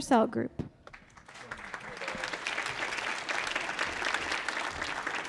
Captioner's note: audience applauding